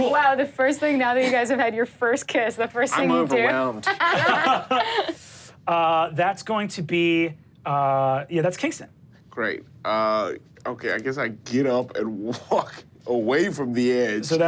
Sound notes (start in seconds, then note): 4.0 all laugh